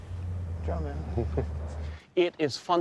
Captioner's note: chuckling